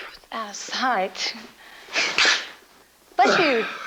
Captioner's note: Joe sneezes